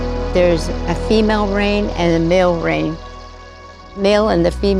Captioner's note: rain drops pouring down